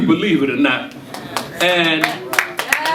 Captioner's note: audience cheering and applauding